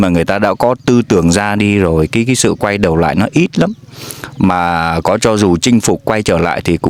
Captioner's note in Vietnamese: khịt mũi